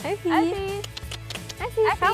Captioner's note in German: Locklaute